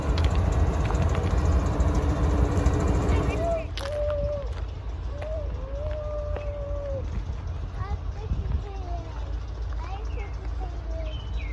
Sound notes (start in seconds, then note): 5.1 making train noises